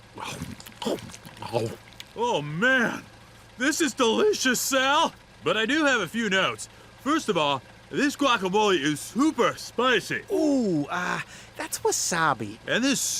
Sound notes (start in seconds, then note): 0.1 chomping food; 8.2 slurred